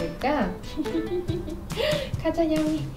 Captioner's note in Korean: 웃음